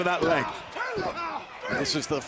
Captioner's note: Cesaro grunting